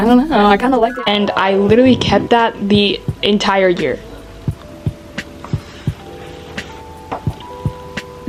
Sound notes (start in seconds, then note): 0.3 flashback sound effect